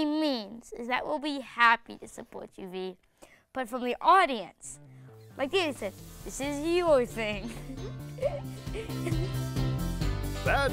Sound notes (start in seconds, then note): 7.4 laughter; 9.0 upbeat music